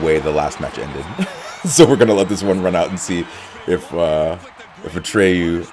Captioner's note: laugh